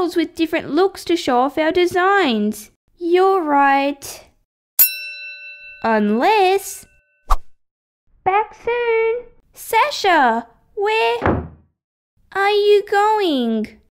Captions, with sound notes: with different looks to show off our designs You’re right... (Ding!) Unless... Back soon! Sasha! Where... (Slam!) ...are you going...?